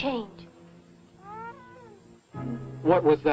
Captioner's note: muffled scream